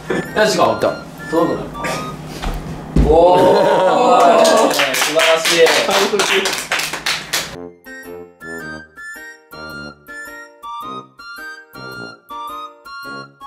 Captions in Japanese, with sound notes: ト）よし行こう おーーーー ト）素晴らしい (拍手)